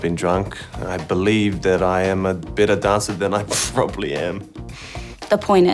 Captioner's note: sniggers